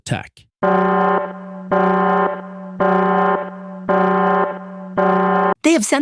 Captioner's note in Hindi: बैट-कंप्यूटर अलार्म दे रहा है।